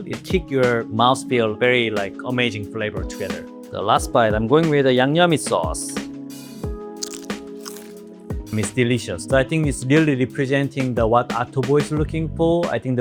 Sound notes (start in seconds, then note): 7.0 chicken crunches; 7.3 upbeat music